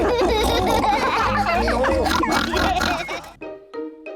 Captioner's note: all giggle